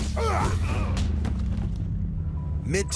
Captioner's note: men grunting